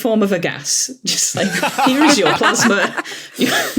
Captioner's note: laugh